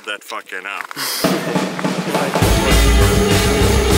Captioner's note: laughter